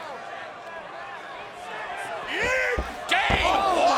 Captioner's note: fans chattering